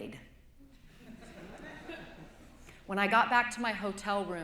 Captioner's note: laughter